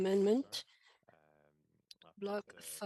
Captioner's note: speaking French